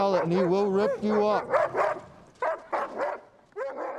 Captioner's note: dog continues barking